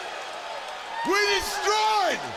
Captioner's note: crowd cheering